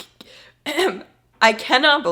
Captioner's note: clears throat